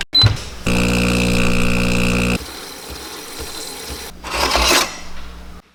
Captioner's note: coffee machine clanking